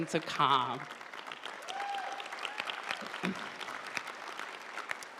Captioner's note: audience applauding